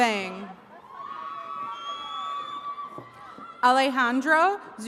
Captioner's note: attendees cheering